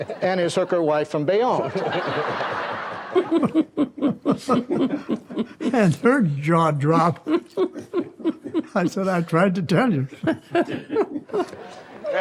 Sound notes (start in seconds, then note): 2.0 audience laughs; 2.0 laughs; 3.3 laugh; 7.1 chuckles; 10.7 laugh